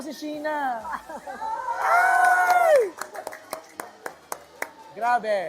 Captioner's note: cheering, clapping